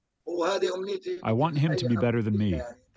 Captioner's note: through translator